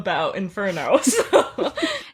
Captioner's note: laughing